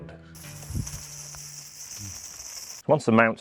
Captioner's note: conduit scraping